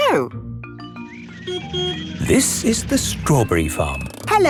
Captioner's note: beeps